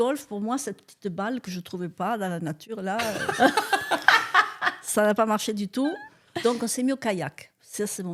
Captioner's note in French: rires